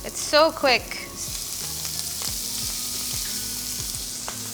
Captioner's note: pan sizzles